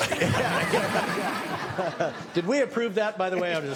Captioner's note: laughing